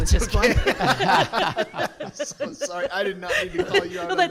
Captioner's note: both laughing